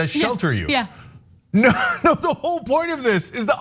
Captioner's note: laugh